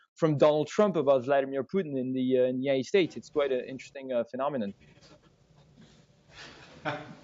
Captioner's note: laughter